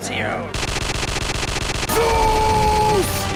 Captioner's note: gunshot glitched and looping